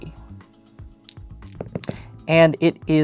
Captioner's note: dice rolling